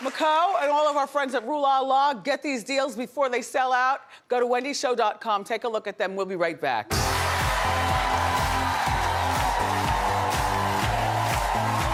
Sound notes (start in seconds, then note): 6.9 audience applauding